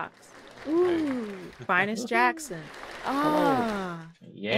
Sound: ahh

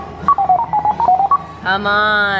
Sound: beeping noises

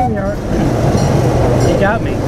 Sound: train horn toots

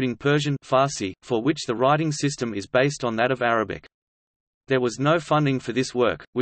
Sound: Farsi

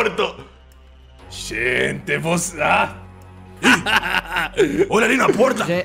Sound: chuckles

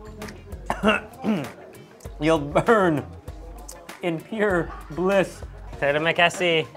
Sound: coughs and clears throat

